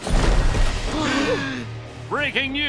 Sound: gasping

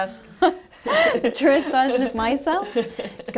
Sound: laughter

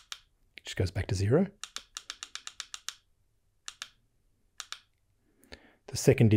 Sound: clicking

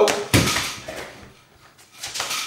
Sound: sound of crashing into a wall

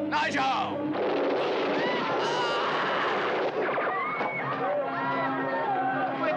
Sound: guns blasting; people panicking

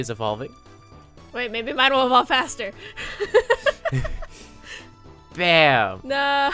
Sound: laughs

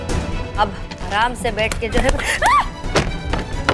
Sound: screams

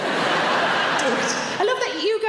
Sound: crowd laugh

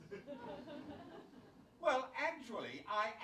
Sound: audience chuckles

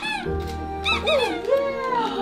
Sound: squeaky toy squeaks

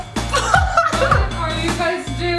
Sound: laughs

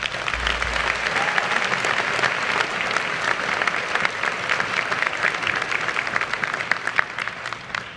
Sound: applause

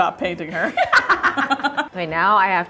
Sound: laughter

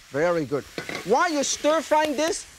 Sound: pan clinks

